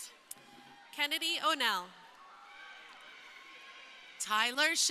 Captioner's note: crowd cheering